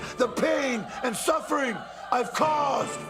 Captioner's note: crowd cheering